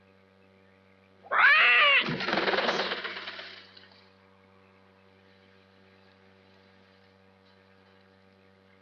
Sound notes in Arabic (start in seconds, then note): 1.2 صيحات البومة